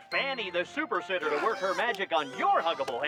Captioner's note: shouts and grunts